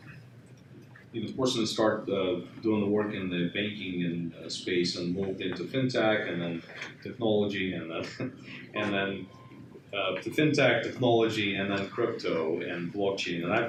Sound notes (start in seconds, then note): 7.8 laughs